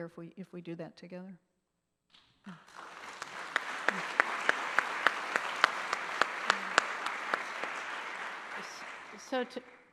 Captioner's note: applause